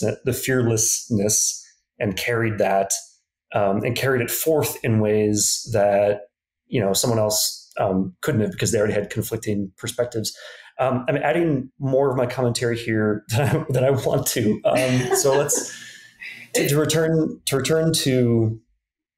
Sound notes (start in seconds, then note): 14.4 laughs; 14.6 laughing